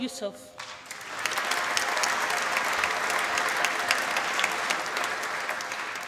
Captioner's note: applause